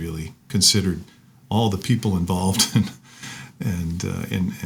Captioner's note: chuckles